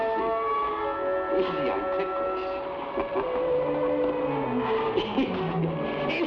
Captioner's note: laughs